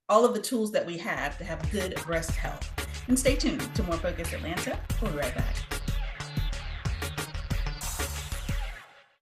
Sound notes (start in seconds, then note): 7.0 air whooshing; 7.0 intriguing upbeat music